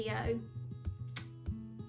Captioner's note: blows kiss